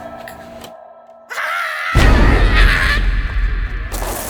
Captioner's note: scream